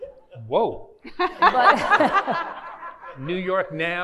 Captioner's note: laughing